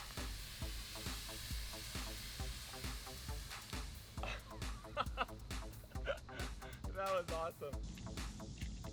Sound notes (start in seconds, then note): 4.7 laughs